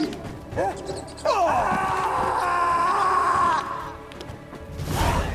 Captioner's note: cries out, screams